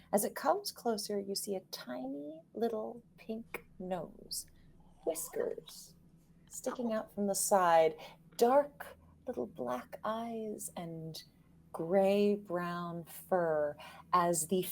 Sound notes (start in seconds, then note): none